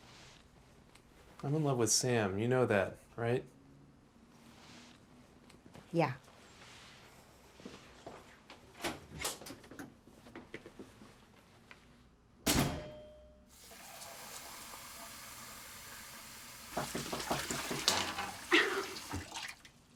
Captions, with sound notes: - I'm in love with Sam, you know that, right? - Yeah. (water running) (door knocking)